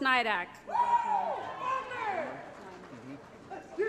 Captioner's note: applause & Cheering